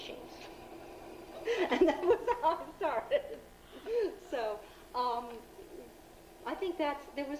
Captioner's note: laughs